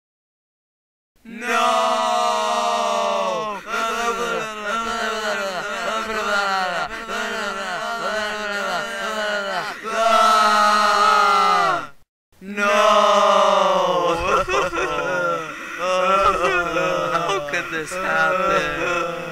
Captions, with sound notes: NOOOOOOOOOOOOOOOO!!!!!!!!! (In panic) (Scream) NOOOOOOOO! (Sobbing) How could this happen?